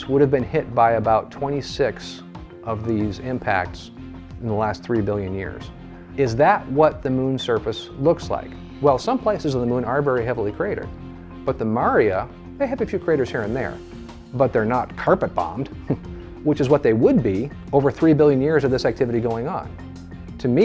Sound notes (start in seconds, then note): 15.8 laughs